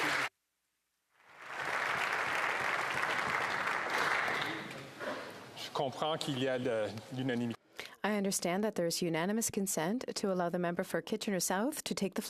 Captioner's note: applause